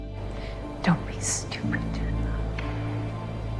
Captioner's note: voiceover